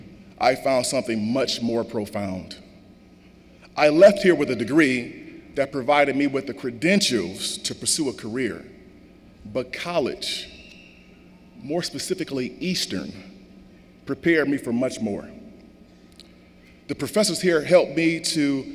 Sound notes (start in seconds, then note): none